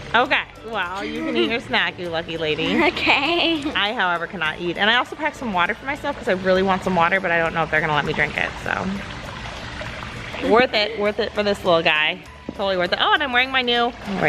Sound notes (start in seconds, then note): 2.6 laughs